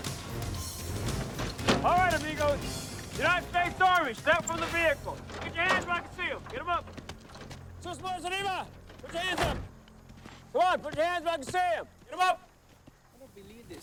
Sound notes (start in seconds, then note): 8.2 speaks Spanish